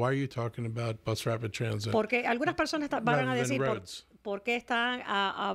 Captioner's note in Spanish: Hablando ingl\s